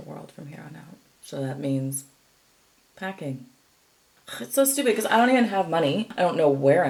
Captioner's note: scoffs